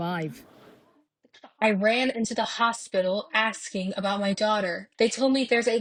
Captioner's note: through translator